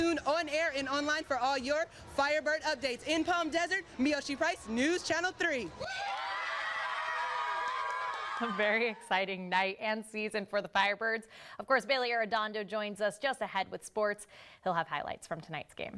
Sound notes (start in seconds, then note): 4.2 cheering behind me